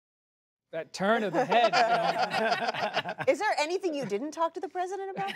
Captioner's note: laughter